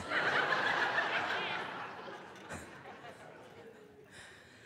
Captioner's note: audience laughing